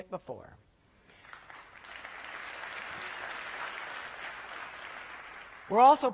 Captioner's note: applause